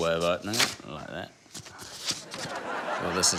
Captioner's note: laughter